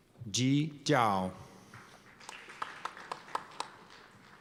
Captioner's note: applause